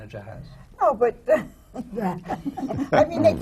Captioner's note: laughter